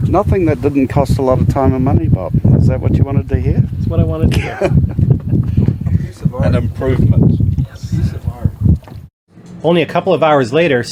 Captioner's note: laughs